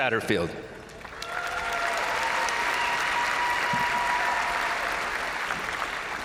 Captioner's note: crowd applauding; crowd cheering